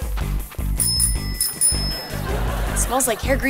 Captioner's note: bell ringing